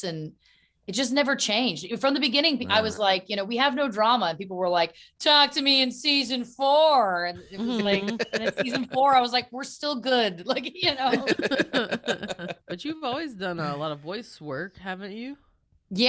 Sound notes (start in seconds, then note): 10.1 laughing